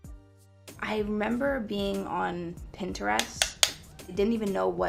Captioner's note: tapping